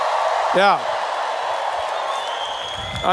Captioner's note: cheers